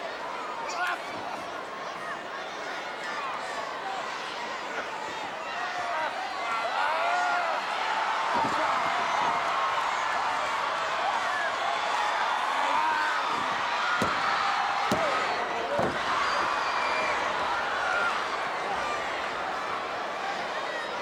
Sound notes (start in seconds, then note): 8.3 audience cheering; 11.8 wrestlers grunting; 13.2 mat banging; 17.8 audience chattering